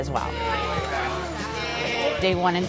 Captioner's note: chatter to dogs